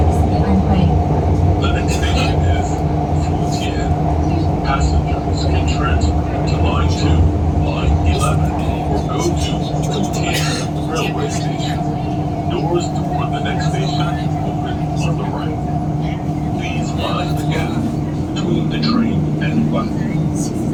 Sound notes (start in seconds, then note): 1.2 Regular English announcement, no special announcement